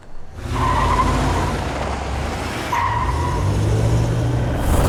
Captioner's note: screeching tires